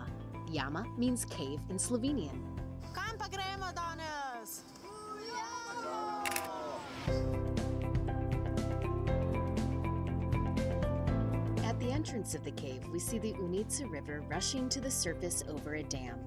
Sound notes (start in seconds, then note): 2.8 speaking Slovenian; 6.2 camera flashes